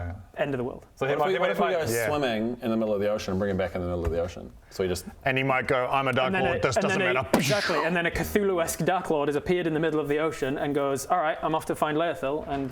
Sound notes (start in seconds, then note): 7.3 bwoosh